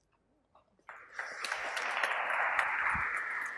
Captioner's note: applause